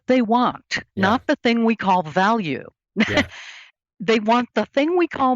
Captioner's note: laughs